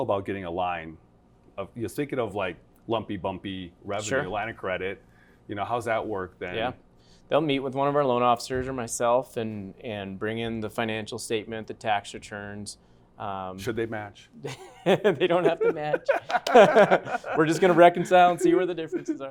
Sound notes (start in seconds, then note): 14.4 laughter